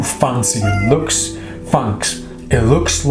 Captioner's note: meowing